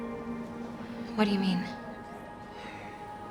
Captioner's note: none